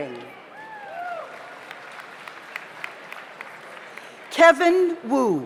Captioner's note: audience cheers; audience applauds